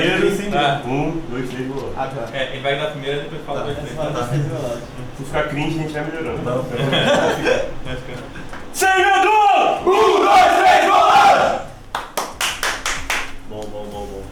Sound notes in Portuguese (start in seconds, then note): 6.7 risadas; 8.8 grito de guerra; 11.9 aplausos